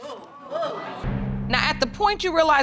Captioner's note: audience exclaims